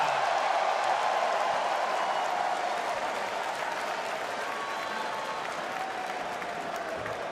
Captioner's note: crowd cheering